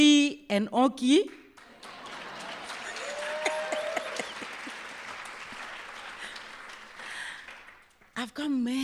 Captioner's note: laughter, applause